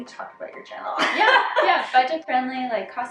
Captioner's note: laughing